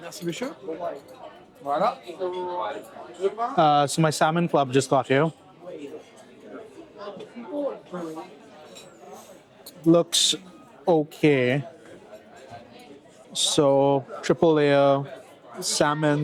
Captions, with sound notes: So my salmon club just got here. (people chattering) Looks o-kay. So triple layer salmon.